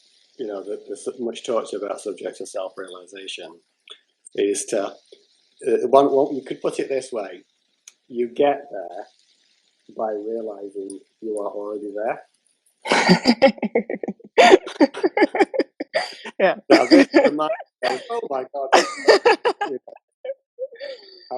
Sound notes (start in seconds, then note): 16.7 laughter